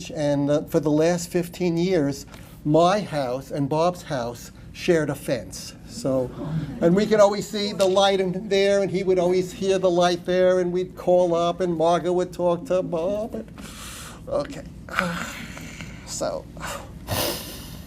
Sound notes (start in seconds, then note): none